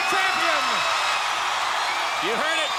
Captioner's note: crowd cheering